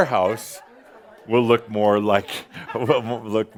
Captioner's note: laughter and some applause